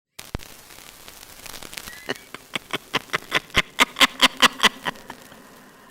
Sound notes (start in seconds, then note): 1.1 record Scratching; 1.8 crazy Nun Cackles